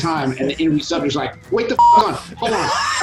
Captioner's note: beep